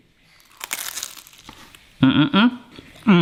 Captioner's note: samosa crunches